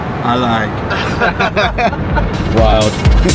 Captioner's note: all laughing